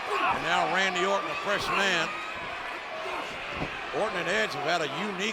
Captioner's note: blow thudding